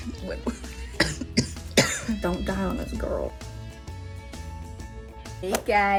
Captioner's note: laughs; coughs violently